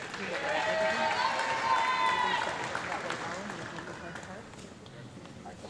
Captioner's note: audience clapping and cheering